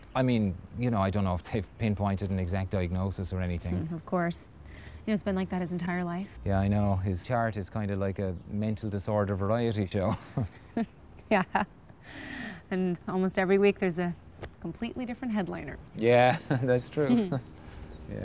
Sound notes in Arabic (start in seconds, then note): 10.0 يضحك